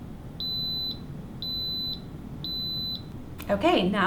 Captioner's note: cooker beeping